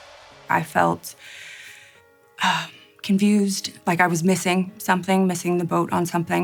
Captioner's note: sighs